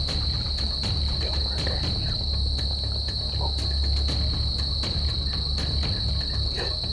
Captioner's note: whispering